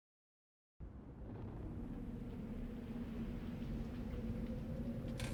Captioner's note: gentle wind howling; light rain falling